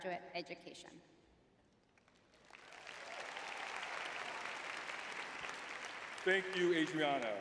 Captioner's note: cheering